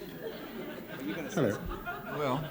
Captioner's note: laughter